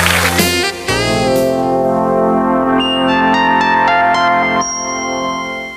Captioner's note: electronic chiming